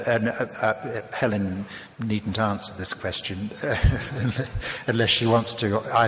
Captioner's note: laughs